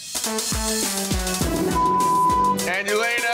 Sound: beep

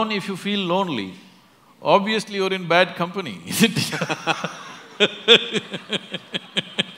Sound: laughter & Applause

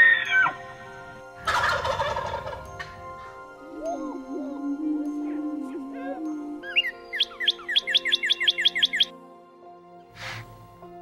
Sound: bird calls

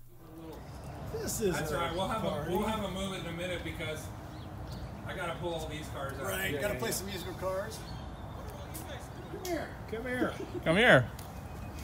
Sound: laughing

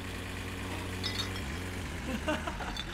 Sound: bottles clink; laughs

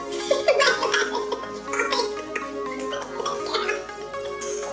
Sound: giggles

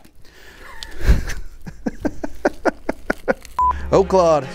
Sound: both laugh; beep

